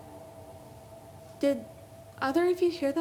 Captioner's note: eery female sound